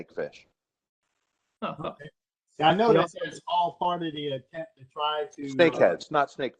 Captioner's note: laughter